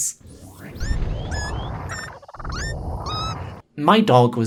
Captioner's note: squeaky melody sound effect again